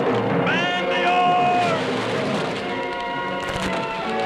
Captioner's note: yelling